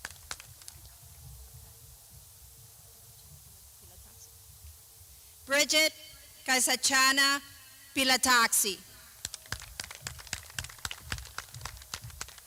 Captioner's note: clapping